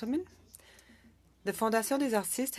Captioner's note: speaking French